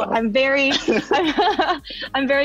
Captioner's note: laughs